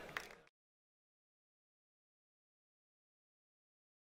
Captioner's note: applause